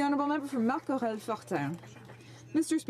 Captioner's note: some Applause